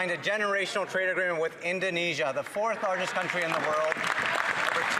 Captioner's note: some Applause